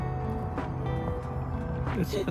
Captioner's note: mom laughs